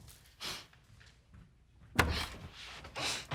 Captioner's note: sniffs